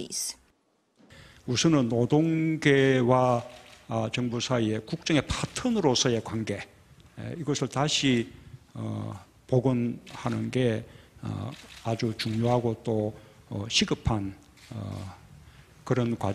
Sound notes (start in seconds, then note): 0.6 Korean